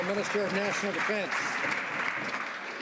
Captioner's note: some Applause